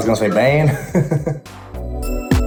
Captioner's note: chuckles